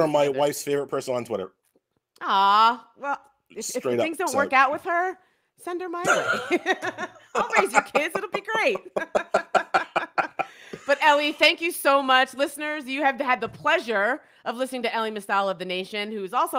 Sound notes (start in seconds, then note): 9.9 laugh